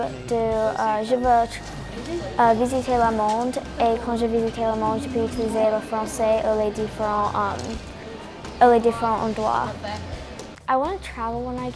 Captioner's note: speaking french